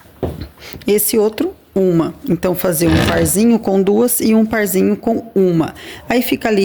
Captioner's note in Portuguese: limpando a garganta